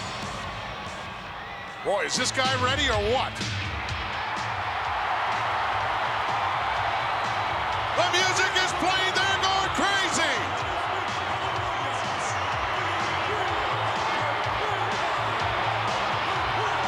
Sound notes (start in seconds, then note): 4.5 crowd cheering; 4.5 upbeat rock music